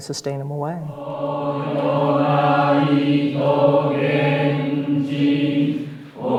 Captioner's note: chanting